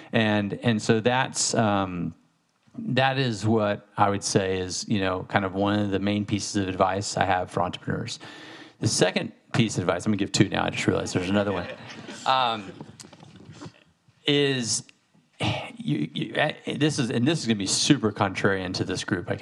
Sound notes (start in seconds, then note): 11.0 audience laughing